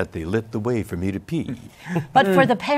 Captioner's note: laughter